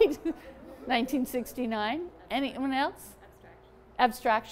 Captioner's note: laughter